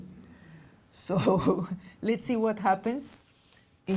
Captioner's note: laughs